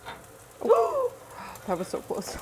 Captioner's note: gasps